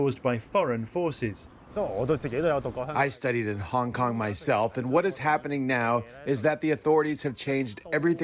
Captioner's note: through translator